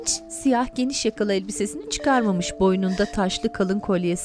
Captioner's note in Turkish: Ağlama sesi